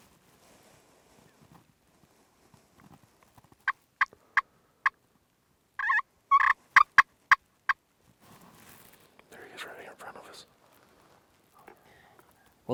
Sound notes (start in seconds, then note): 3.8 turkey calling again